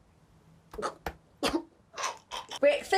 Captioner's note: coughs